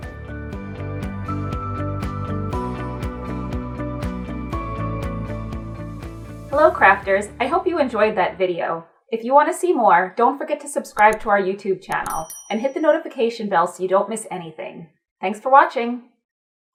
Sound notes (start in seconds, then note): 0.0 upbeat music; 12.0 bell rings